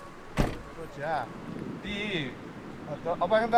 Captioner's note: metal door slams